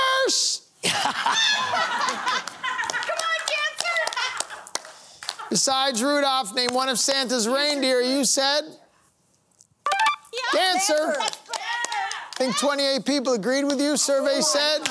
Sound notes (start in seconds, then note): 0.8 laughter